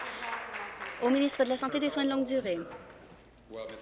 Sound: applause

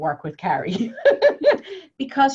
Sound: laughs

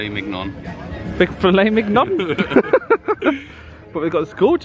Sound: laughs

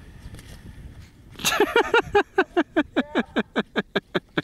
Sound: laughing

